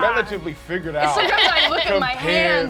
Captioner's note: wordless yelling